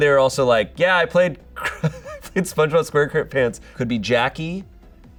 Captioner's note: laughs